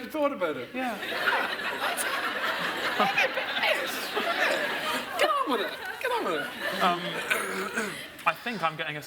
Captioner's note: audience laughs